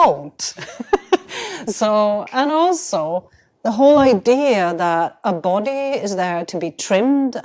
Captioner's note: chuckles